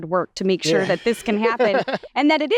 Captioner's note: laughs